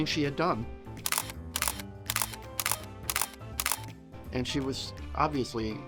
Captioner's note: upbeat music; camera clicking